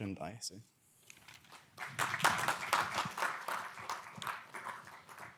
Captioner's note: audience applauding